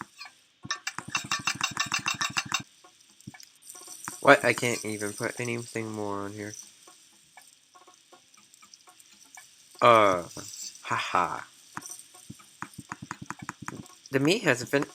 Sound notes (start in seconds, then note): 0.7 hibachi noises